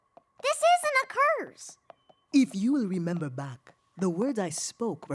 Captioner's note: none